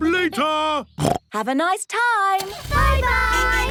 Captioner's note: snorts